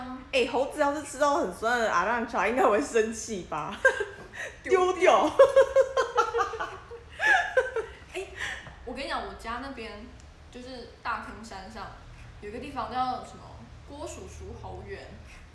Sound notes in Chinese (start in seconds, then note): 5.3 大笑